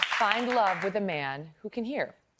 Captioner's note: applause